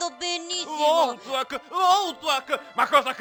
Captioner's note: mocking